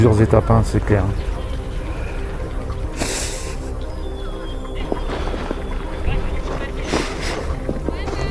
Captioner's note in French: grognement